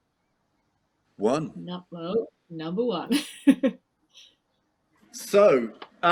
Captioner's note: laughs